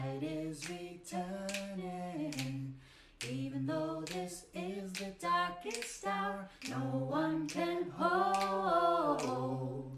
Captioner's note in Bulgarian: Щракане с пръсти